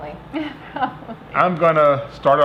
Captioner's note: giggling